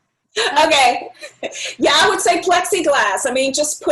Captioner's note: chuckles